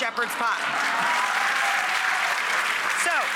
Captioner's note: applause